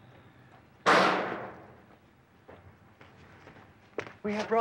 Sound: metal sheet bangs

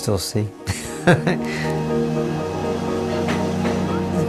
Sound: laughs

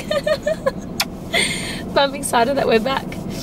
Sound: giggles

